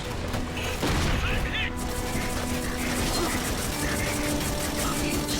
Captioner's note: explosion booms